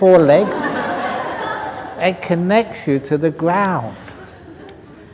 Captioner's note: laughter